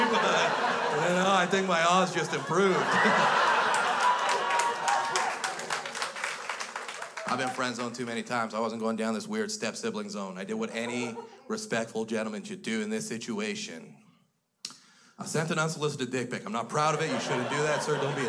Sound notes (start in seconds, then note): 2.8 crowd laughs; 5.7 crowd applauds